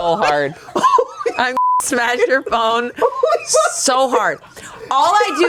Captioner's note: beep